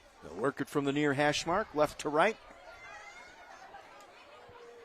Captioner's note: laughter